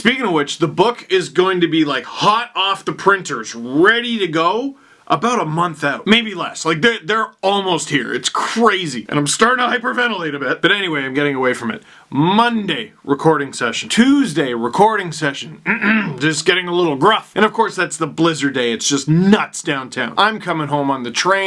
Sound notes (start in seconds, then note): 15.6 clearing throat